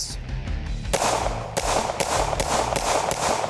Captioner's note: gun firing